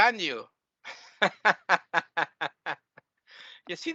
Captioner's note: laughing